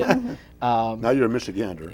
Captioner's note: laughter